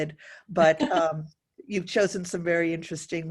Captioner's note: laughing